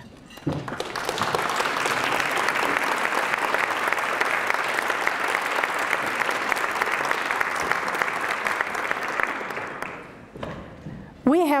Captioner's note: applause